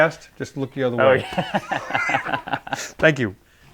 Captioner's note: chuckling